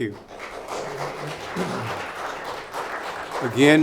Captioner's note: clapping